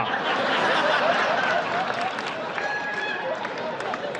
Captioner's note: laughing